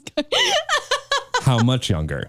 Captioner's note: chuckles